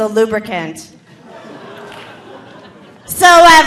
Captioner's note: audience laughing